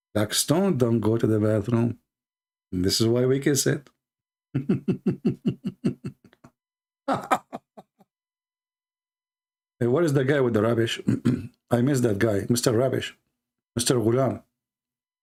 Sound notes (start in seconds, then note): 4.4 Ketawa